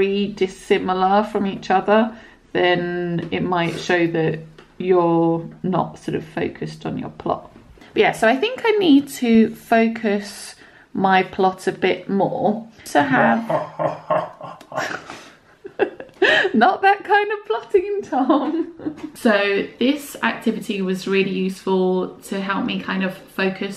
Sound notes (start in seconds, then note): 13.2 evil laughing in background